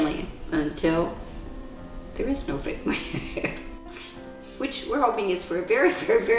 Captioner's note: laughter